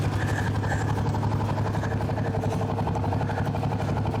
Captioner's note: engine running